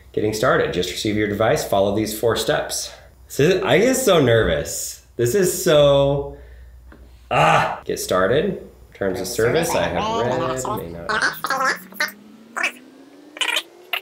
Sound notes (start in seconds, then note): 7.3 groans; 9.7 voice speeds up and pitches up